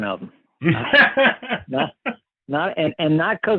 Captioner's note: laughs